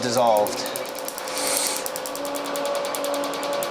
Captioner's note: gasp